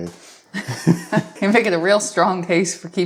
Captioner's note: both laughing